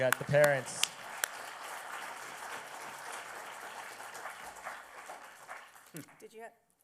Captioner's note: applause